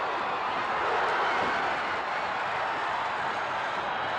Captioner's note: crowd exclaims; crowd cheering